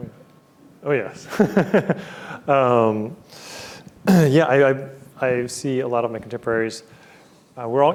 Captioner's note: chuckles